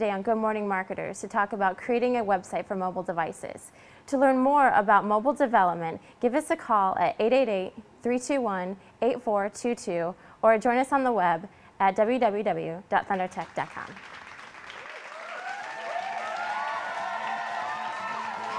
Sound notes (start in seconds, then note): 13.2 applause